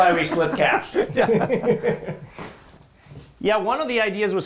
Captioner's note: laughter